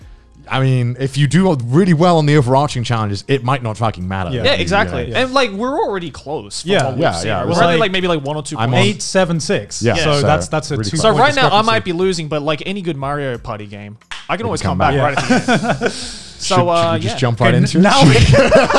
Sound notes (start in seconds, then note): 15.0 laughs; 17.9 all laugh heartedly